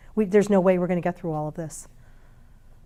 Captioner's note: none